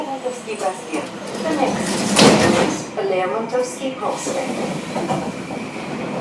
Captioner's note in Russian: закрытие дверей